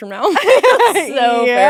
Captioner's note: both laughing